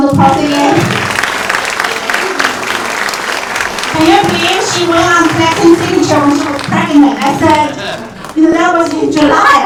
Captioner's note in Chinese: 掌声